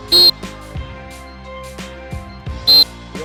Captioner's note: whistle